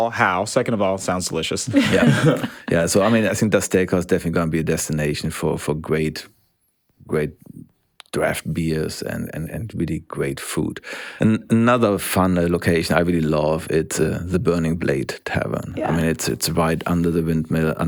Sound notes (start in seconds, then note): 1.7 all laugh